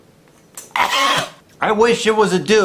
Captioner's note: cough